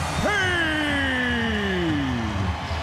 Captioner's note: crowd cheering